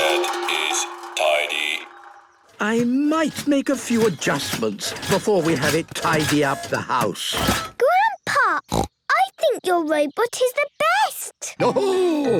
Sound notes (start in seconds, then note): 8.6 snorting